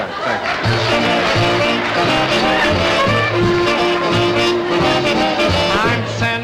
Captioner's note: band Starting and Audience Applauding